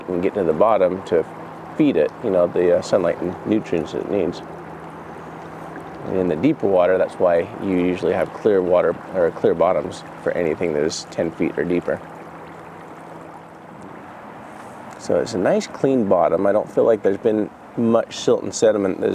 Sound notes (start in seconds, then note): 5.5 boat engine purring; 13.1 water gently rushing